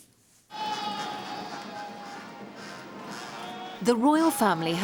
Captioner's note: guard calling; regal music